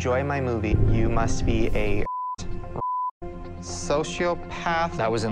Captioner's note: beep